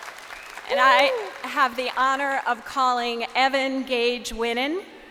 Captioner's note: crowd cheering